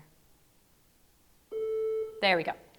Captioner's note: tone sounds